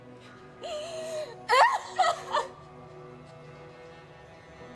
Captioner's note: breathless sobbing continues